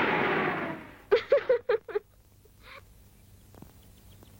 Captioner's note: laughing